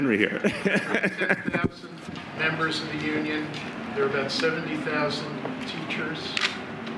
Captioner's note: laughter